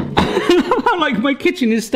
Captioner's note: laughs